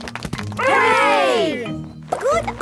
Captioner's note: crowd applauding